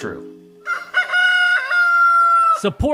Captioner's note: rooster crows